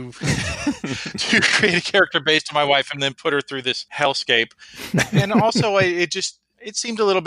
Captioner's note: laughs